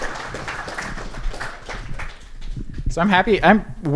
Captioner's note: applause